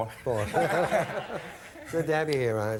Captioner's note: audience laughing